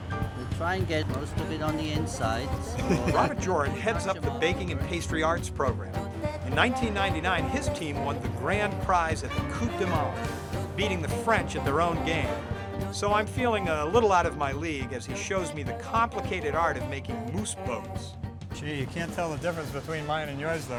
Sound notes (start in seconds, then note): 2.5 laughs